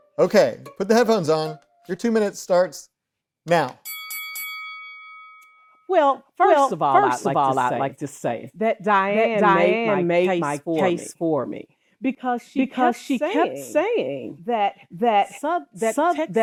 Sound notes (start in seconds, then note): 3.8 bell ringing